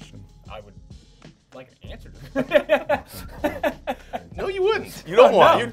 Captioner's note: all laughing